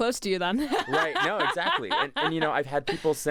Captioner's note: laughs